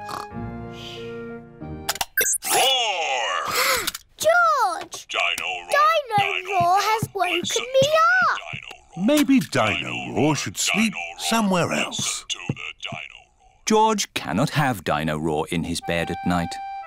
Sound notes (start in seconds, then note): 3.1 gasps